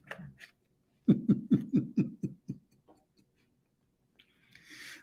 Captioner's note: Ketawa